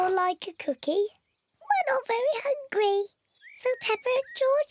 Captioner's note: in squeaky voice